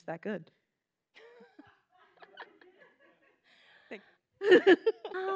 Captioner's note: attendees laughing